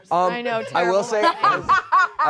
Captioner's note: laughs